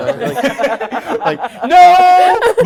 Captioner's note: laughing